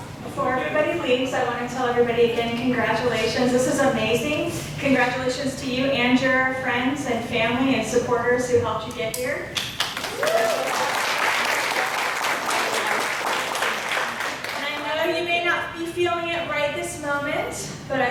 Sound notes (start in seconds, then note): 9.6 applause